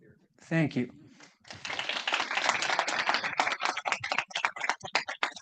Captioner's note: class clapping